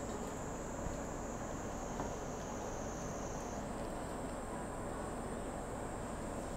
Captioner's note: cicada sounds outside the window